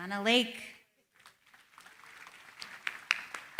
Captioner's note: applause